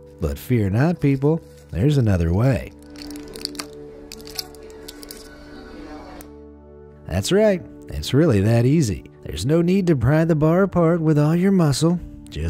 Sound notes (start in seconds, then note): 2.5 foil crinkling